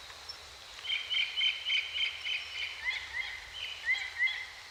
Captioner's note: birds chirping